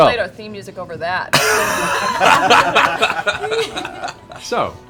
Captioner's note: laughter